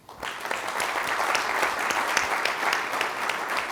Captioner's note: crowd applauds